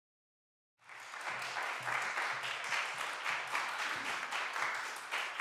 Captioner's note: applause